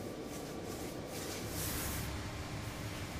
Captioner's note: soft whirring